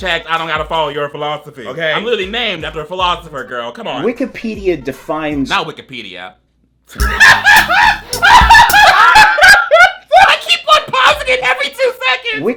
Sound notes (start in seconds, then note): 7.0 laughs